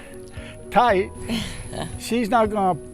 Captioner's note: chuckles lightly